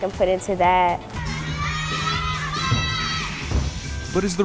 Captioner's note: people shouting in the background